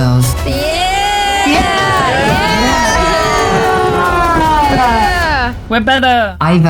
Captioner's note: crowd cheering